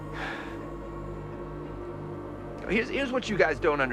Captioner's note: sighs